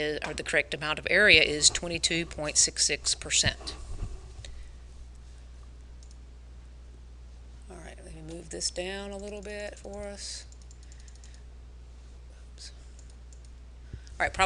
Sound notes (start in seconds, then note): 6.0 mouse clicks; 10.5 mouse clicking